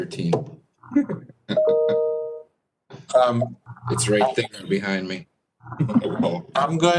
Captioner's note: laughter